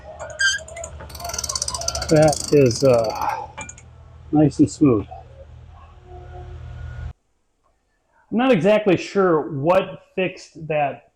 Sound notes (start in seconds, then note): 1.0 hammer banging